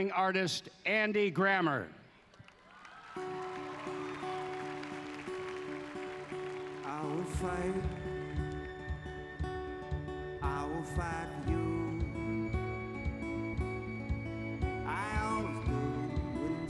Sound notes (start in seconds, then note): 2.2 applause